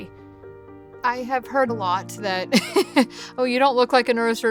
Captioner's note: laughs